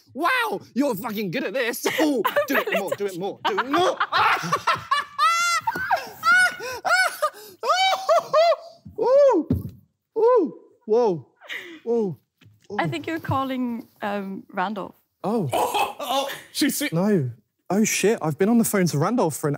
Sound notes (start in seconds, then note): 4.9 laughing